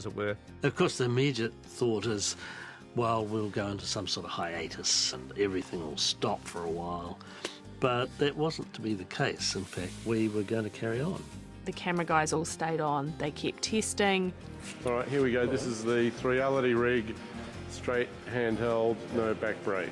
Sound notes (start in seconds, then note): none